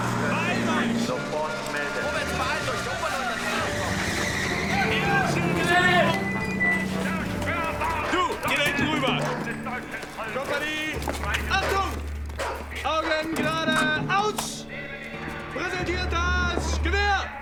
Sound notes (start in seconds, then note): 0.5 speaking german; 2.5 speaking german; 8.7 speaking german; 12.4 speaking german